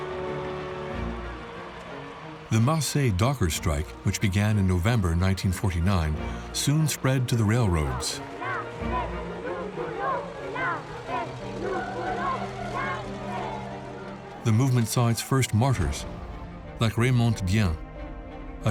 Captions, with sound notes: The Marseille dockers strike, which began in November 1949, soon spread to the railroads. (ALL CHANT IN FRENCH) The movement saw its first martyrs, like Raymonde Dien,